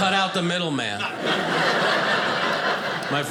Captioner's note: audience laughing